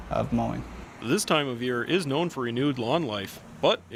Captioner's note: voiceover